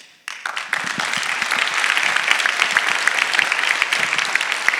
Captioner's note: audience applauding